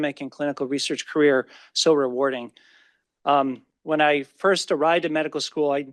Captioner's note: none